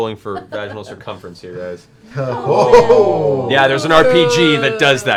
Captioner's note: sounds of disgust